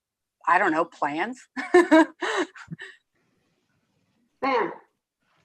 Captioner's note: laughs